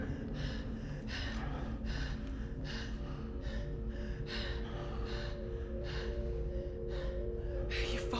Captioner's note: heavy breathing